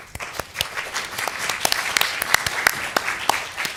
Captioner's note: applause